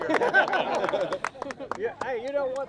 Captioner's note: laughter